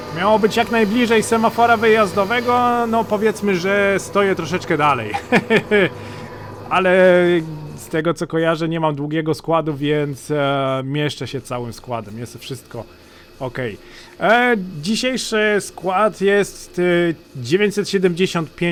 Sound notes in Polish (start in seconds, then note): 5.0 śmiech